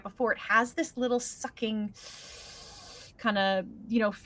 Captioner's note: inhales sharply